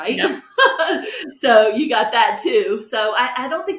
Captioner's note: laughs